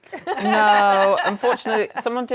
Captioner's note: laughter